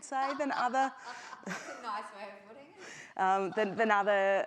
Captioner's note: laughs